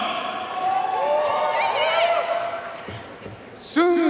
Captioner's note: audience cheering and applauding